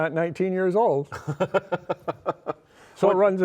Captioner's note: laughs